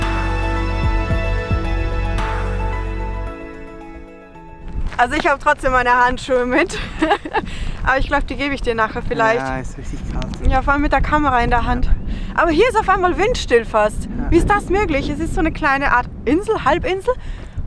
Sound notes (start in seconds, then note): 6.6 laughter